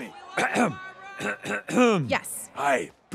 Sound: clearing throat

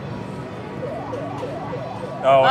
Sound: machine bleeps

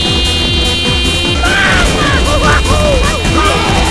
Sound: mario screams

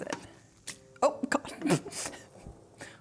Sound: laughing

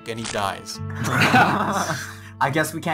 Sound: laughter

